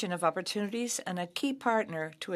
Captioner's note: speaking French